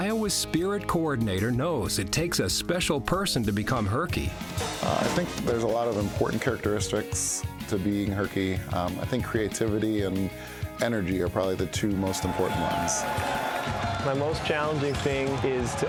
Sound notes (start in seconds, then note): 11.9 crowd cheering